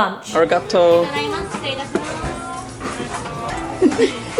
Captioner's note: speaking foreign language; laughing